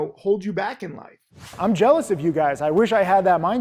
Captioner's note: air whooshes